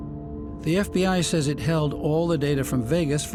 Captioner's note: voice-over